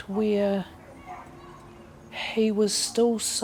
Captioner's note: shouting echoes